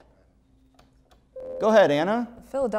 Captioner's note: buzzer